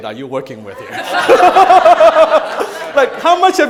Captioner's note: crowd laughing